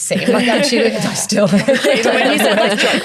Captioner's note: everyone laughs